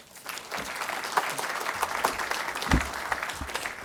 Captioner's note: audience applauding